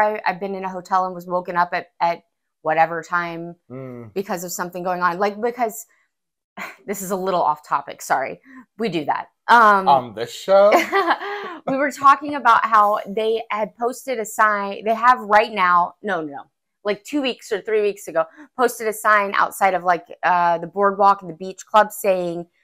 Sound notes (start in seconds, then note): 11.0 laugh